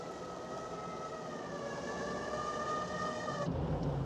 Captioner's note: siren